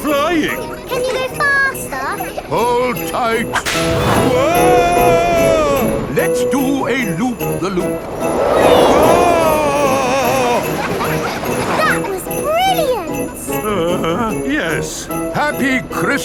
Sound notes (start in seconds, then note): 10.0 screaming; 11.1 children laughing